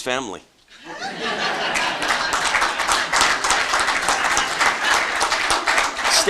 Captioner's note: laughter and Applause